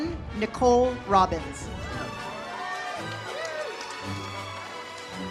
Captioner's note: audience applauds; uplifting music